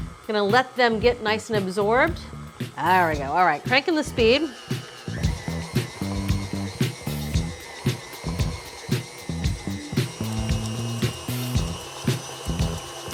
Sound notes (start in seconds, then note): 4.9 mixer whirring continues; 4.9 upbeat music continues